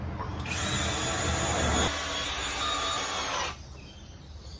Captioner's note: power drill drills